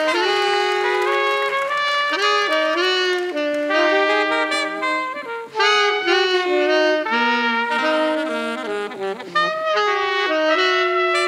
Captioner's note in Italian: Applauso